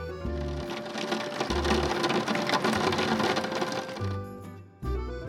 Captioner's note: rain sounds